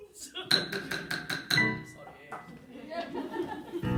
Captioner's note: laughs, then offscreen someone taps loudly